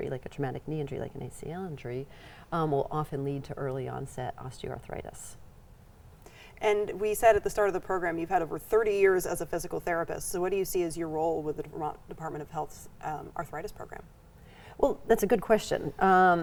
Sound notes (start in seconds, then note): none